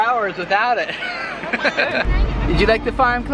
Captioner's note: laughing